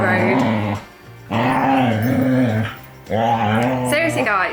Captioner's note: River play growling again